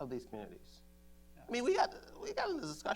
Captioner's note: laughs